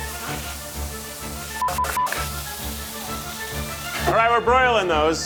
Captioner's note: beep